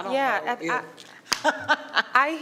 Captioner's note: laughing